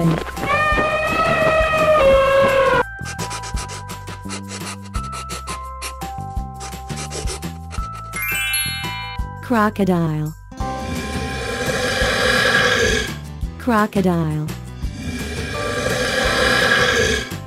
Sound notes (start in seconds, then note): 13.3 crocodile sound